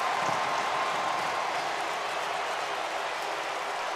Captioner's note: cheering